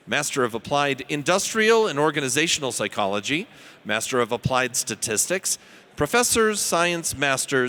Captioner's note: none